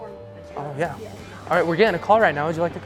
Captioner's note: alarm blaring